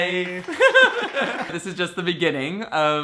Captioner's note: hands clapping